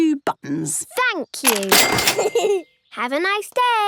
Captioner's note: giggles